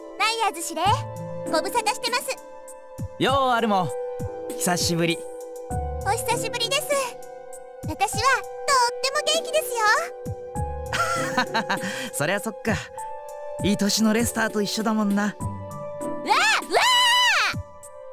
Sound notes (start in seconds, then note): 10.9 laugh